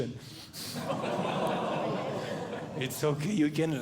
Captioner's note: audience Groaning